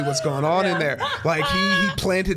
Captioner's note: Brennan guffawing